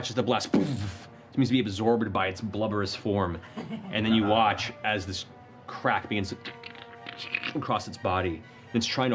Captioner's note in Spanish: crujido